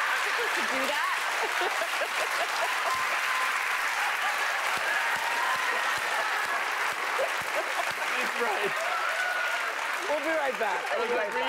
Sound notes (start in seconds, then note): 0.0 laughter; 2.1 laughter and cheering